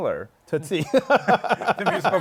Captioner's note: laughs